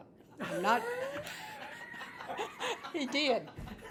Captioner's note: group laughs